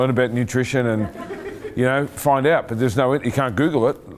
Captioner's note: laughing